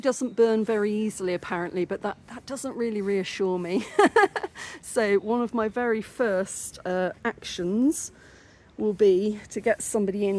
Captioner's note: laughing